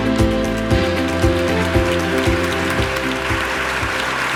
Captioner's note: audience clapping